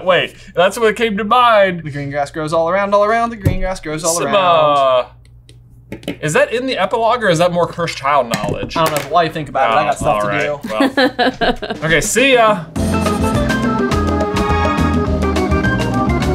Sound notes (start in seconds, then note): 10.6 laughing amusingly; 12.7 upbeat pensive music